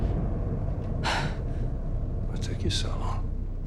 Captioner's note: Jill gasps